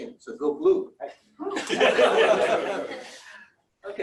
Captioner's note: laughter